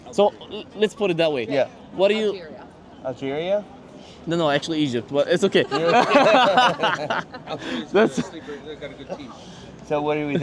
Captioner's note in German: gelächter